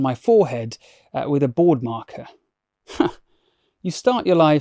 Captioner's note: chuckles